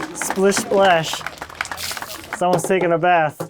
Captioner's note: laughing; audience applauding; counter ticking